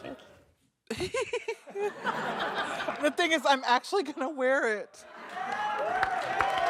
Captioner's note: laughter